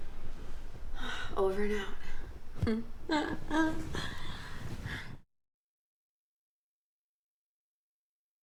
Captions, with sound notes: Over and out. (chuckles)